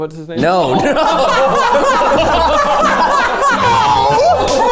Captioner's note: everyone laughing